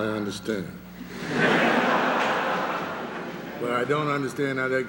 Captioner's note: laughter